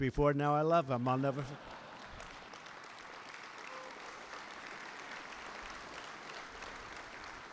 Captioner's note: laughter and applause